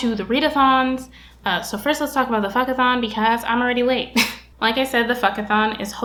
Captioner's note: chuckle